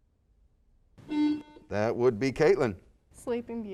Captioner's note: buzzer beeps